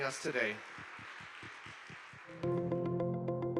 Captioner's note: attendees applauding; bright music